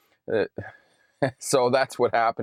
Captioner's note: chuckles